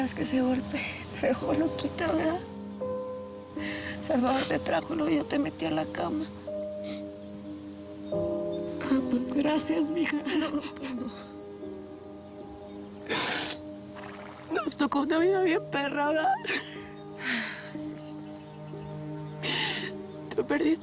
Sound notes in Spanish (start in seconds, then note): 10.1 Sollozos